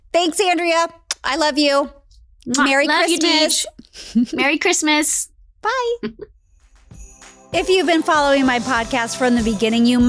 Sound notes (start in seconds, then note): 1.1 lips smack; 3.0 laughs; 6.8 cheerful upbeat music